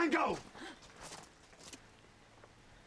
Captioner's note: woman gasps